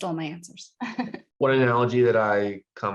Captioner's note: laughs